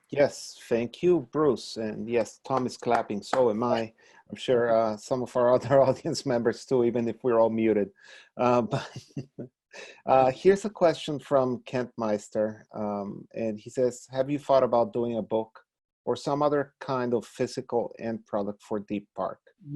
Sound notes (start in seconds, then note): 3.3 clapping; 8.8 laughing